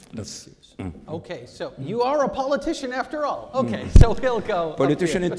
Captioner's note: laughs